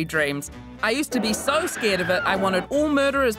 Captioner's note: woman screaming